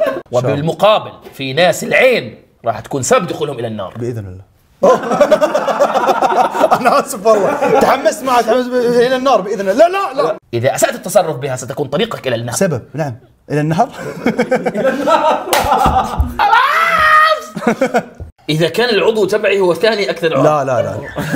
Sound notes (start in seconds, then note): 0.0 everyone laughs; 4.8 everyone laughs; 13.9 laughs; 16.3 shouts; 17.4 laughs; 20.7 everyone laughs